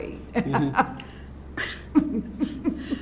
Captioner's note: laughs